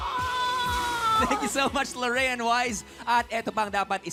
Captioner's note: laughs